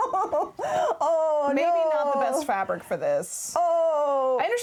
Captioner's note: laughing